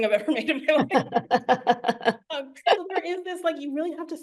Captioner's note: laughs